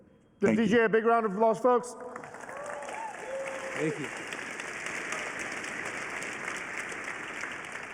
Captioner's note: applause